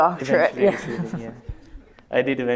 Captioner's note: laughter